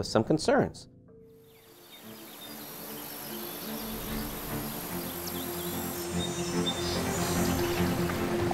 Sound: birds chirping; sounds of waves

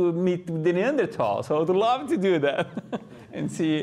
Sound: laughs

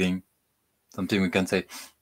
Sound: sniffs

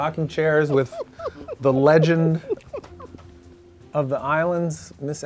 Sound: laughing

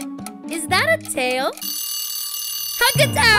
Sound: timer

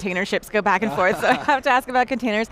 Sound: laughing

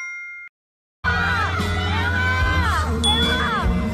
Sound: ARMY cheers for the members

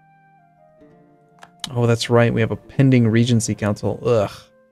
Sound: disgusted sound

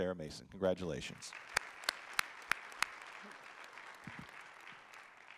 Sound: audience applauding

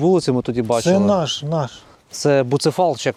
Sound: Ukrainian

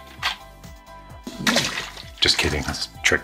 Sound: water splashes

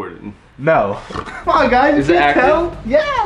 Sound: snorts

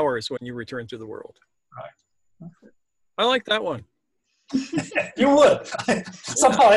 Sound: laugh

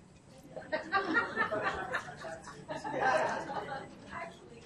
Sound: audience laughs

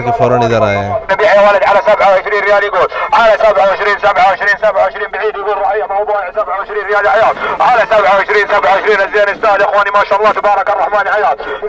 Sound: Arabic

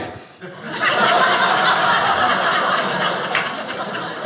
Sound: audience laughing

